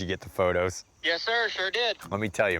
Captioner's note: on phone